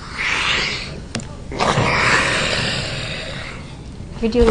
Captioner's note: heavy sighing